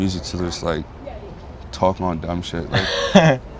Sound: laughter

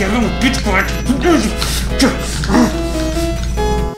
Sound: inarticulate sounds of anger

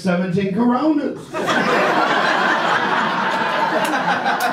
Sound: audience laughs

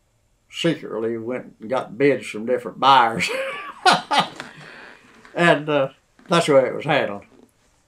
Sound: laughs

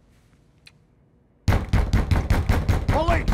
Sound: banging

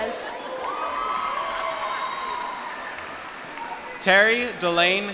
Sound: applause

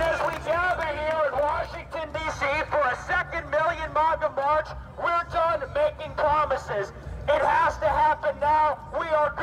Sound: cheering and applause

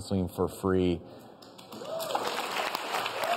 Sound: audience claps

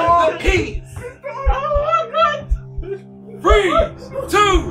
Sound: all chattering; all chattering

